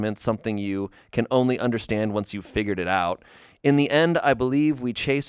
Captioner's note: none